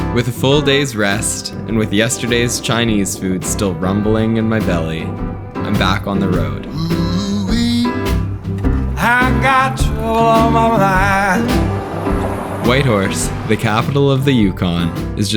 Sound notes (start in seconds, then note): 7.5 country music continues; 12.0 truck driving